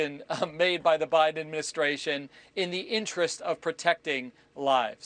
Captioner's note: laughter